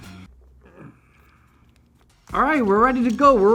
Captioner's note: grunting